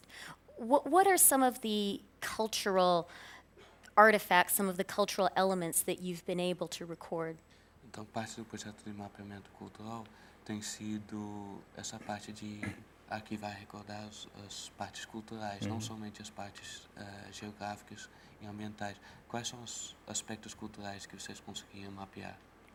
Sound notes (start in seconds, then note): 12.4 speaking in portuguese